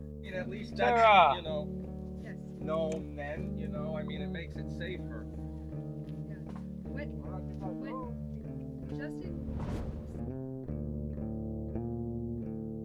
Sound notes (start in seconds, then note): 6.9 people talking loudly; 10.2 mellow guitar music